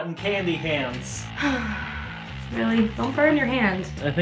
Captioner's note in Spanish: suspiro